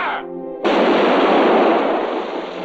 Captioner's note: cannon blasting